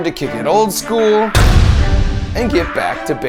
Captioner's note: anvil thudding